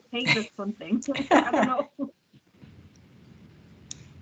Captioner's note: laughing